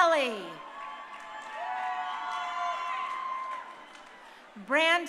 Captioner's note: crowd cheering